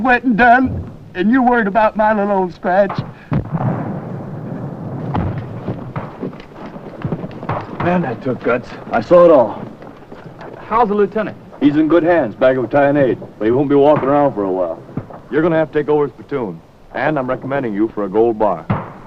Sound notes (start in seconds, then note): 9.2 explosions; 9.2 gunfire